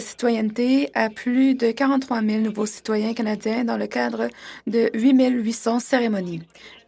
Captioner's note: speaking French